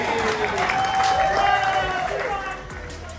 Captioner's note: crowd laughs and cheers